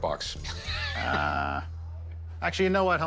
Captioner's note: laughs